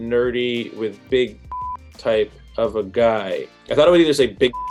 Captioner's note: beep; beep